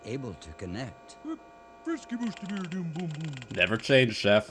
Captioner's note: Persistent Swedish Chef sounds